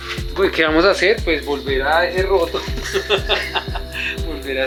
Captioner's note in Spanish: risas